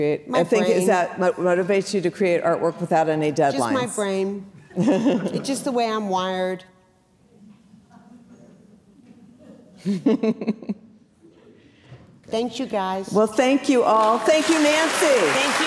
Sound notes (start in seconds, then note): 8.3 audience chattering; 9.0 giggling